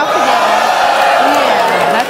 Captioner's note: audience clapping